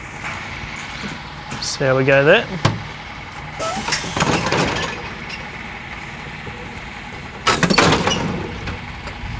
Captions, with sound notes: See how we go there. (loud banging)